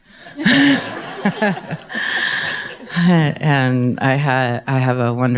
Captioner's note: audience laughing